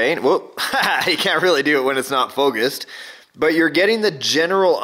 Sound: laughs

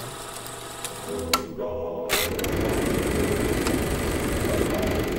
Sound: projector clicking

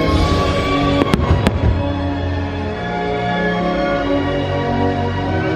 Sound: enchanting music continues; fireworks exploding

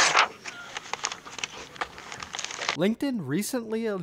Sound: pages tearing

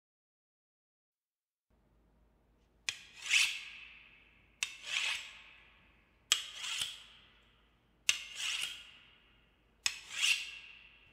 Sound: knife scream

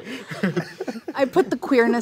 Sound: laughing

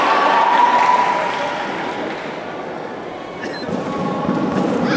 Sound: applause

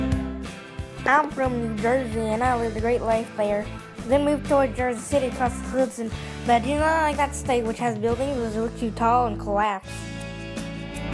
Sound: New Jersey accent

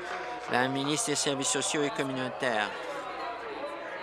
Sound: applause

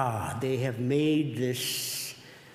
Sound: none

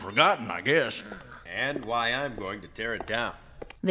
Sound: sound of footsteps and person talking

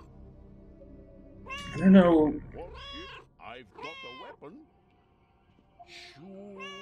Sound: Hodge meowing

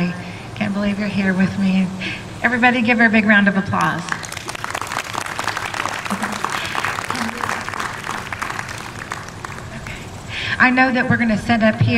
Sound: applause

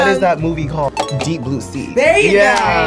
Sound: bell dings

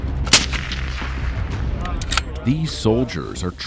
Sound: gunshot

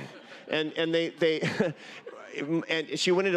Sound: laughter

